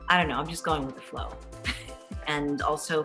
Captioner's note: chuckles